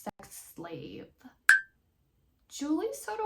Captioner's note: blink sound effect